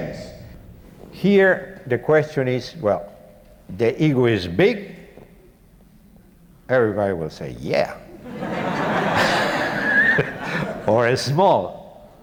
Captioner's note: audience laughter